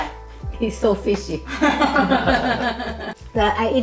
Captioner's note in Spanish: Risas